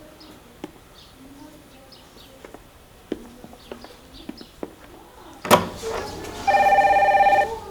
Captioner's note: footsteps; phone ringing